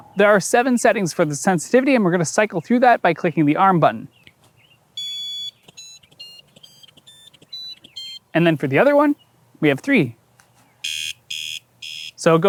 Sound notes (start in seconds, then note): 5.0 7 progressively higher-pitched beeps; 10.8 3 progressively lower volume beeps